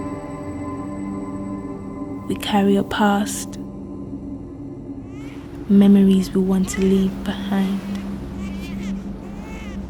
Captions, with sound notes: We carry a past. (baby crying) Memories we want to leave behind.